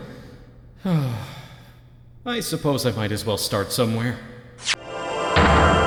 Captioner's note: sigh